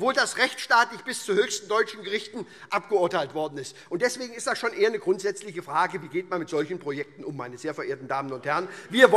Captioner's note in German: none